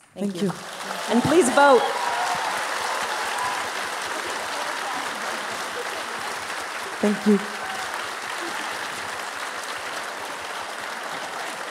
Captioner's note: applause